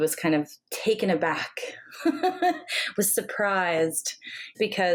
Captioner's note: laughing